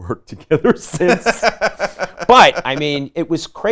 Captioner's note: laughing